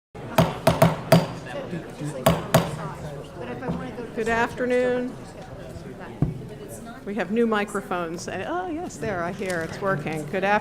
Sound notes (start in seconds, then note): 0.3 gavel